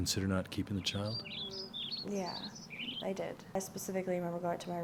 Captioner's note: bird chirping